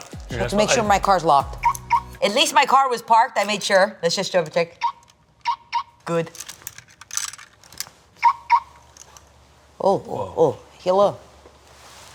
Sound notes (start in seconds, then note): 1.6 car lock beeping; 4.8 car lock beeping; 6.2 keys jangling; 8.2 car lock beeping